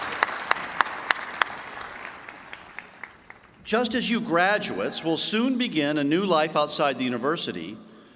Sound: applause

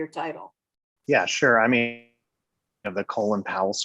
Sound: distorted audio

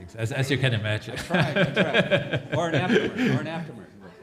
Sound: laughs

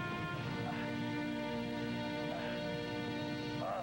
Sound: moaning

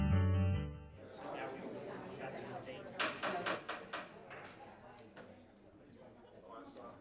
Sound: people chattering; gavel banging

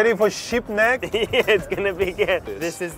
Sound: laughing

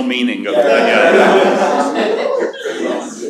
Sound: laughter

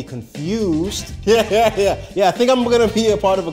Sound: laughing

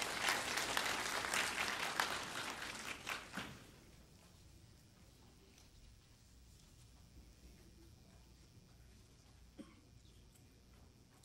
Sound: applause

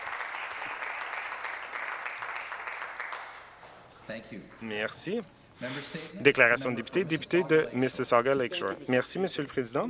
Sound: some Applause

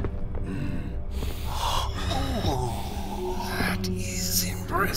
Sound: sounds of footsteps hitting concrete

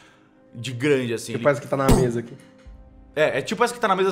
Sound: pow

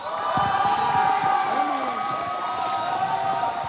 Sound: cheers

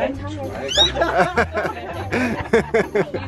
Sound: girl squeaks; laughter

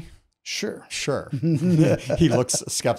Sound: both laughing

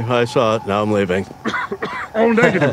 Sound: coughs

